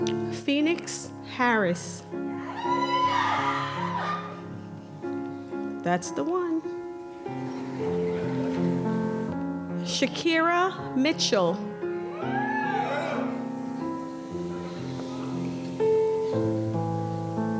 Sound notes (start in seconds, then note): 2.4 isolated cheering; 7.4 audience laughter; 12.1 isolated cheering